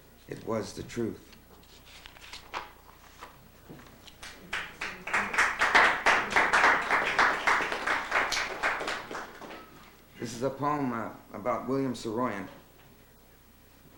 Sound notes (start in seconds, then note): 4.2 applause